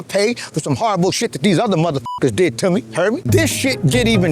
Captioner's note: beep